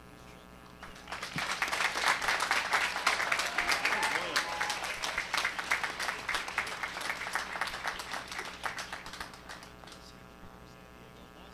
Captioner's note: applause and cheering